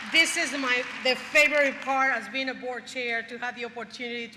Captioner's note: applause